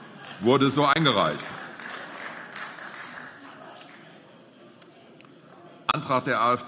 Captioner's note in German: Beifall